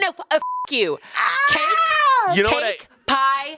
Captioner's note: beep; screams